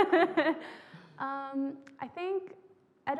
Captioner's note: laughing